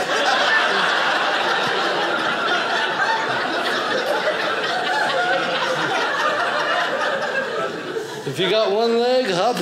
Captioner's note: audience laughing